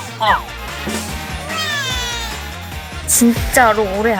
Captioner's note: crying